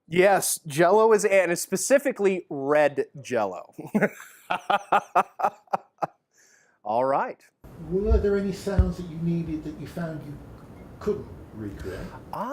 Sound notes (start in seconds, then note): 3.8 laughs